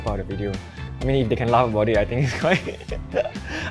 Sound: laughs

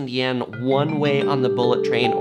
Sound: bells chiming

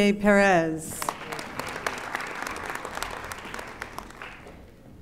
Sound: audience applauding

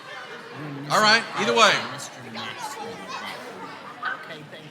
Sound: crowd talking

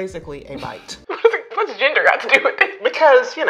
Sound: chuckles

